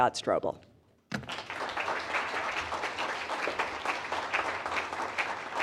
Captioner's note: attendees applaud